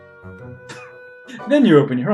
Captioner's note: laughs